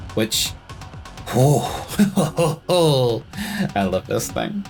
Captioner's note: laughter of a devious lil’ bitch